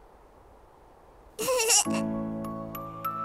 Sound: Goten giggles

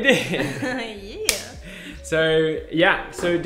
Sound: hands clapping

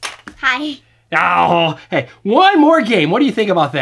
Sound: voiceover

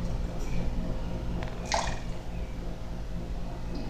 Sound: slosh

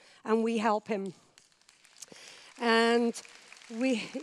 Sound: applause

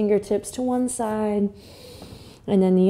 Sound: inhales

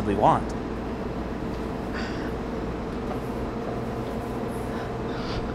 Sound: kitchen appliances whirring

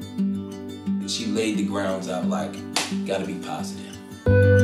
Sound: claps

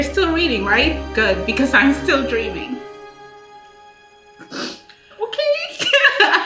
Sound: softly crying

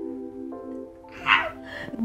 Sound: fangirl screech

